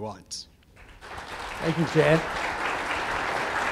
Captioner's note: hand Claps